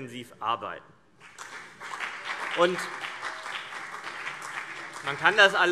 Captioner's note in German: Beifall CDU und BÜNDNIS 90/DIE GRÜNEN